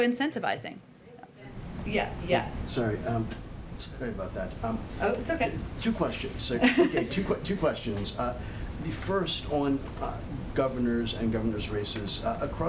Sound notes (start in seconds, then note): 6.5 laughter